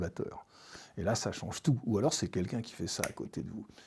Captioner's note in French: fingersnaps